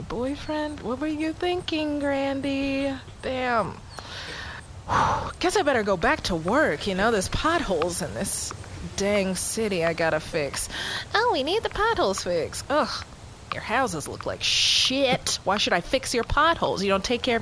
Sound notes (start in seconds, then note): 3.9 takes a breath; 10.1 mockingly